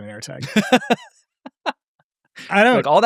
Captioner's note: laughs